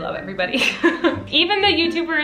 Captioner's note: giggles